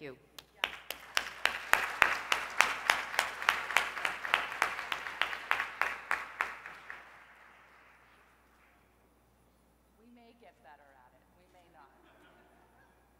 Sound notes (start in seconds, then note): 0.4 applause; 11.9 laugh